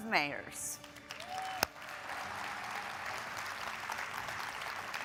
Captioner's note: audience applauds